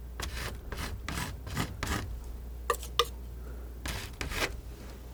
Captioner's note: scratching